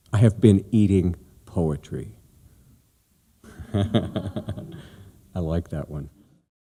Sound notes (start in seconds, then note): 3.4 laughter